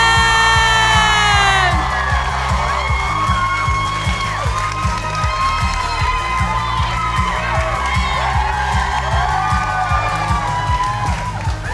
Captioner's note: cheering